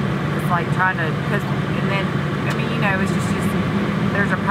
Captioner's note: stammering